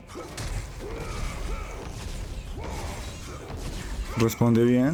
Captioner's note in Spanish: gemido